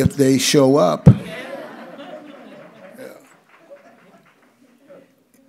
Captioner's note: audience laughs